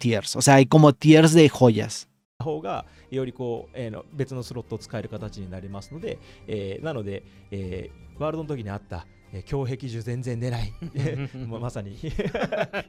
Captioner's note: laughs